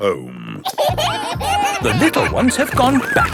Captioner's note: kids giggling